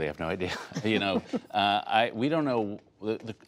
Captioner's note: laughter